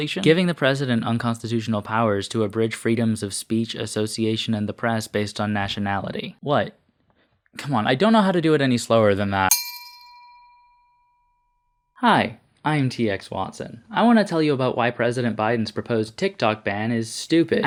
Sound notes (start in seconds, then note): 9.5 bell sound